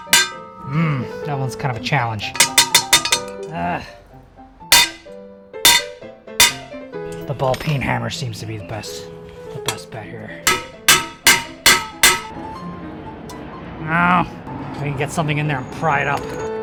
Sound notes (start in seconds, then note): 0.0 hammering; 2.3 hammering; 5.6 bang; 10.4 hammering